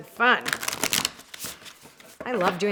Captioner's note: cards flipping